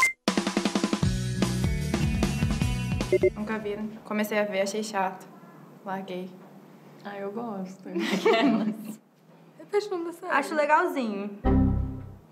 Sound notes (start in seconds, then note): 8.0 laughs